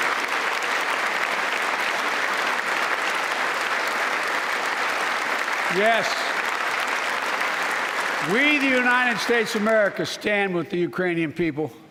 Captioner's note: applause